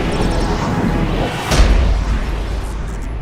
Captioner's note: thud!